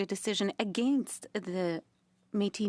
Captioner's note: speaking French